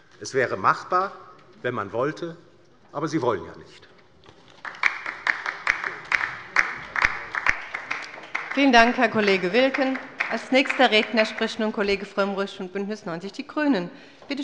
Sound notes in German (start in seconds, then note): 4.3 Beifall bei der LINKEN